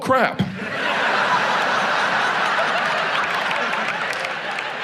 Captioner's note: audience laughs